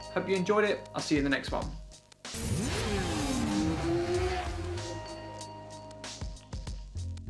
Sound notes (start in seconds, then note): 2.3 motorcycle revving; 4.5 upbeat music